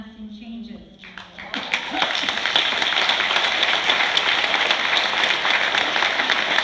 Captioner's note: applause